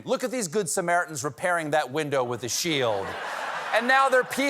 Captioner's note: laughter